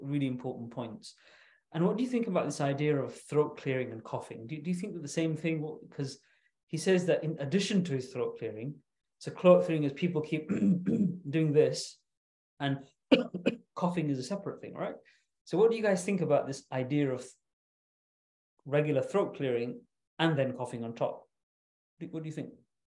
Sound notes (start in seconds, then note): 10.4 clears throat; 13.1 coughs